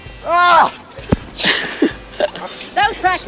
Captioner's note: laughs